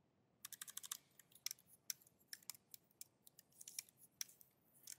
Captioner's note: keyboard clacking